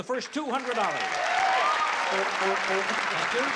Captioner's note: honking